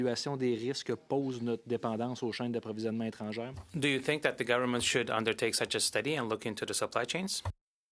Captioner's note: speaking French